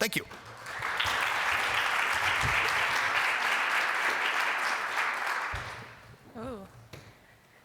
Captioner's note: applause